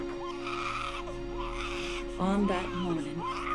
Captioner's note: pigs squealing